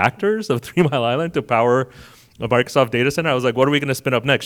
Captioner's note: chuckles